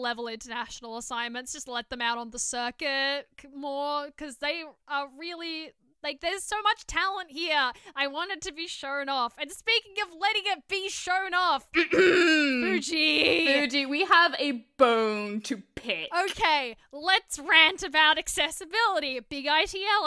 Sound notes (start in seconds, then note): 11.7 cough noises